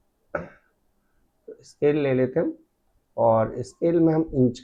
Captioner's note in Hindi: गला साफ़ करने की आवाज़